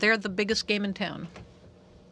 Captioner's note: speaking french